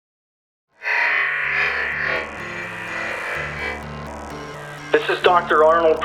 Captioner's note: distorted squealing; static hissing